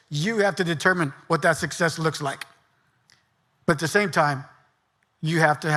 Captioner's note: none